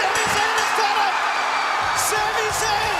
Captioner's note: bell ringing